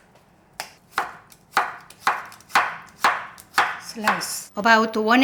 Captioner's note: knife chopping